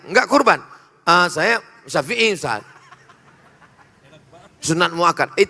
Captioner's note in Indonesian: tertawa